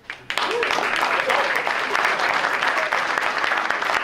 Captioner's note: applause